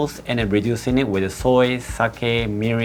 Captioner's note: none